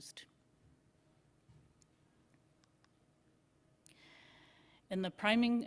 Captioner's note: silence